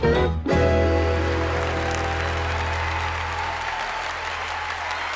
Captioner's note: audience applauding